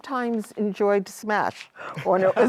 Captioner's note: laughter